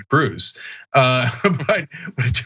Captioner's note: laugh